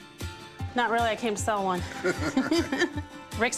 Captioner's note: both laugh